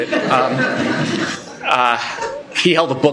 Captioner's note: laughter